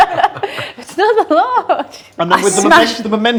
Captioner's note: laughs; group laughs